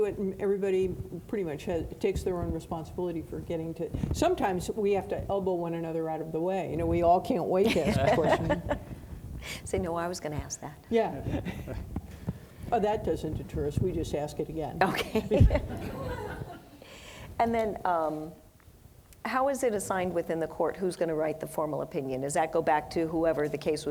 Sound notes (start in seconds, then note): 7.7 laughing; 11.3 laughing; 15.2 audience laughing